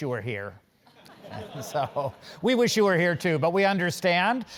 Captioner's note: laugh